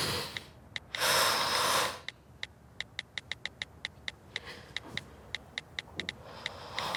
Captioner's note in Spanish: Sonidos al escribir texto